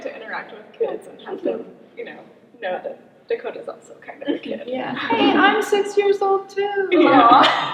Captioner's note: imitating a child